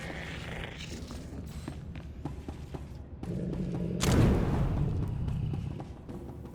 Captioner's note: growling; gunshot; suspenseful music